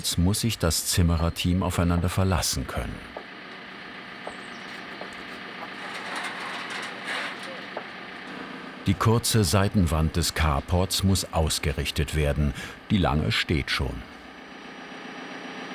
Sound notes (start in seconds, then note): 3.6 rattling hum of the telescopic handler; 6.6 clattering